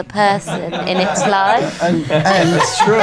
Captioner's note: laughter